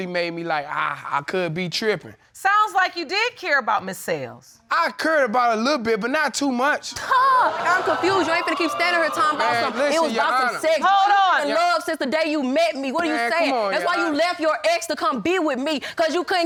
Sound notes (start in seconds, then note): 7.0 audience exclaiming